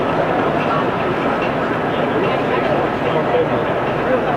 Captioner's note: fans whirring